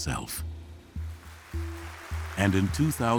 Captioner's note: applause